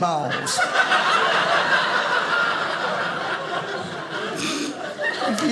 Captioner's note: audience laughing